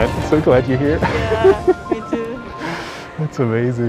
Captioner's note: laughs excitedly